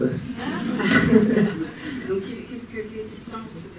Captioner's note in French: rires